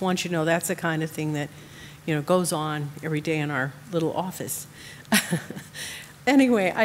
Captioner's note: chuckles